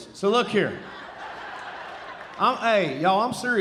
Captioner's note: audience laughing